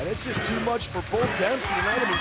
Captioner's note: bell ringing